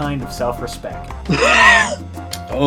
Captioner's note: wheeze